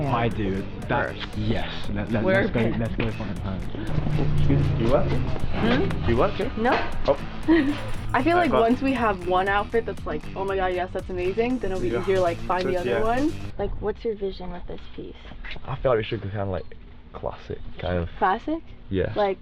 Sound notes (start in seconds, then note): 7.4 laughs